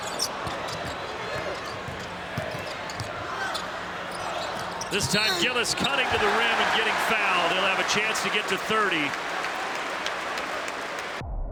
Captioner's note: cheering